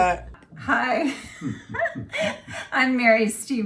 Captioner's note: laughs